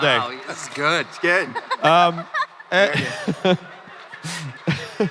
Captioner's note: crowd laughing